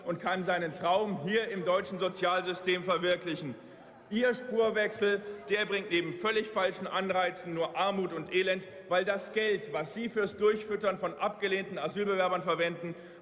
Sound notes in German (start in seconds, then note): none